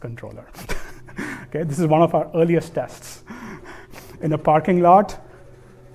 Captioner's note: chuckles